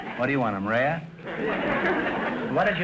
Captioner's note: audience laughter